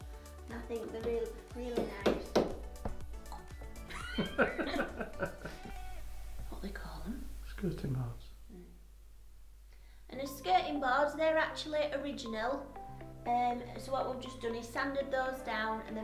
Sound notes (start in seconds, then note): 3.8 both giggle; 6.3 whisper